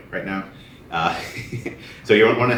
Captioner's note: laughter